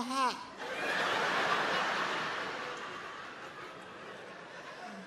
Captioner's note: crowd laughing